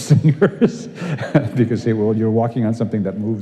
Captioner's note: laughs